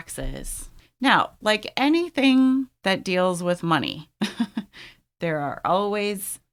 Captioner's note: laughs